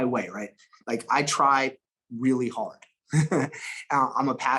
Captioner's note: chuckles